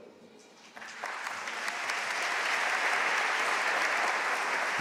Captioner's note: audience applauding